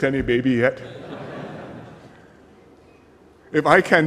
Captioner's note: laughter